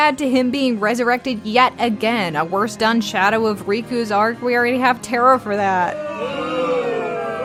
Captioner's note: boooo!!